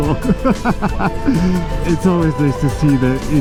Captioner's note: laughing